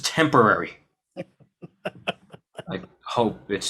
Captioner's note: boss laughing